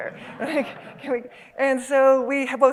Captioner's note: laughter